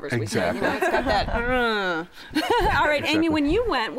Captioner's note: laughs